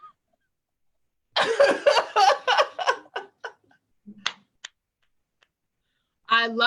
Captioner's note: laughs